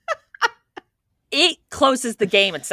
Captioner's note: both Laughing